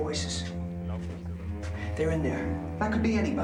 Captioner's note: speaking german